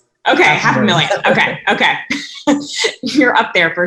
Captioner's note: laughing